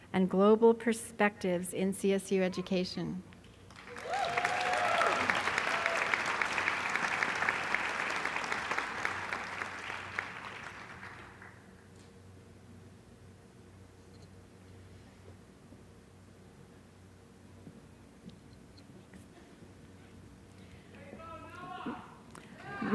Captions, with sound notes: and global perspectives in CSU education. [ Applause ]